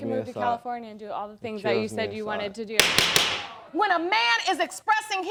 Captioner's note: gavel banging